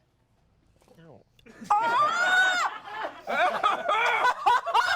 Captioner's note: everyone laughs